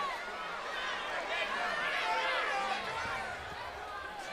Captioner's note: audience shouting